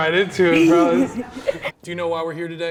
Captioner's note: laughs